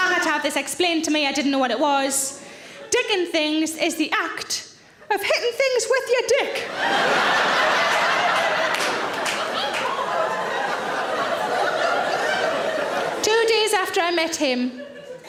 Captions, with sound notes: And I'd had this explained to me, I didn't know what it was. Dickin' things is the act of hittin' things with your dick. (audience laughs) Two days after I met him,